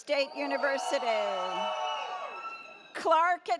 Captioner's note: audience cheers